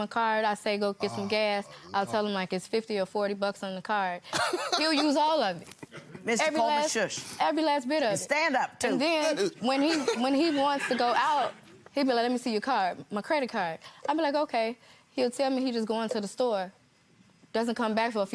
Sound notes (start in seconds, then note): 4.4 laughing